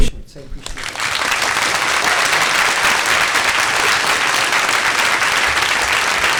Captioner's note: audience clapping